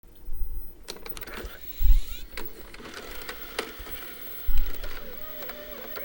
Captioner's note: mechanical sound of VHS camcorder loading